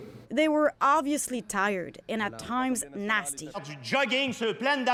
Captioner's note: speaking French